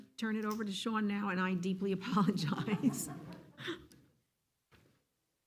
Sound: laughs

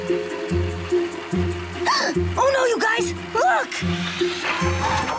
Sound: gasping

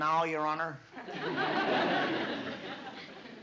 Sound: laughter

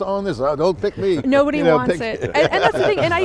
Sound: laughs

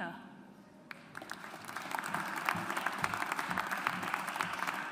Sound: audience applauds

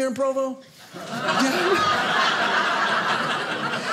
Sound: audience laughing

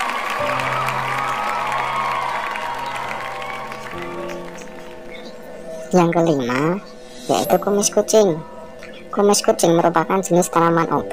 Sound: applause

